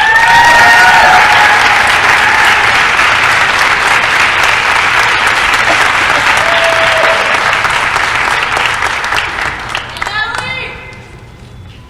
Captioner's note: applause & cheering